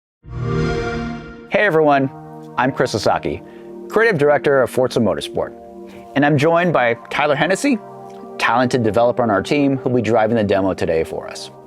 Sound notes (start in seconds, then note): 0.3 xbox sound